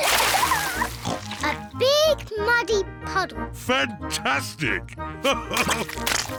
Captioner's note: oinks; laughs